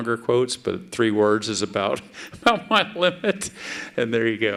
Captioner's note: laughs